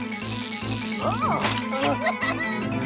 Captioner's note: giggles